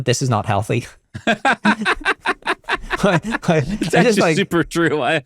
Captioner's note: laughing